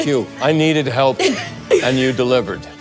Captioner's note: Kathryn laughs